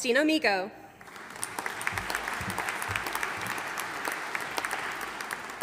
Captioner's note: audience applauding